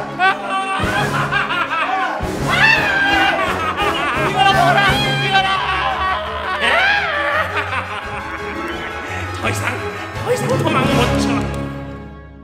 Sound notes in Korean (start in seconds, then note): 0.1 박사의 섬뜩한 웃음 - 계속; 0.1 비명 - 계속; 6.2 비명; 6.7 박사의 들뜬 웃음